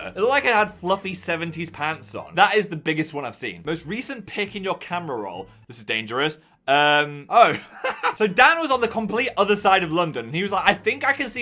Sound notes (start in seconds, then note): 7.5 laughs